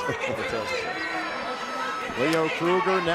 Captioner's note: crowd cheering